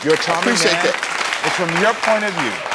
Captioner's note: audience applauds